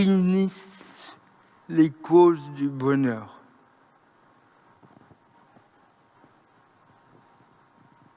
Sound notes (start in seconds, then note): 3.5 moment of silence